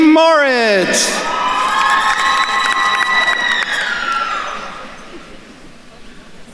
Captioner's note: attendees cheering and applauding